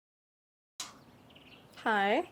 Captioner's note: birds chirp